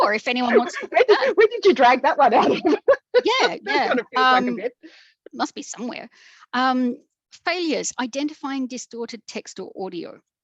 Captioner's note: laughs